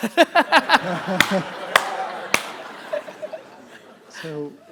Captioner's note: audience laughter; laughs